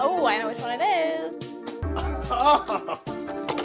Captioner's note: disgusted cry